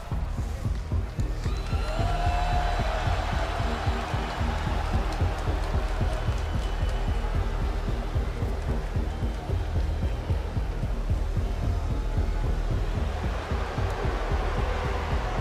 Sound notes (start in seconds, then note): 4.6 crowd cheers